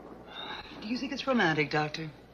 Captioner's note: Sylvia sighs